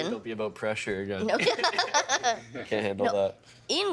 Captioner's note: laughing